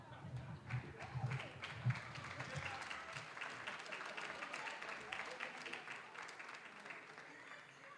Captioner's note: applause